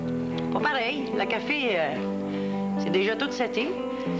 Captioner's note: none